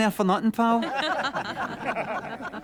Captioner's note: laughter